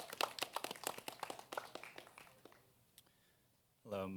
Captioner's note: applause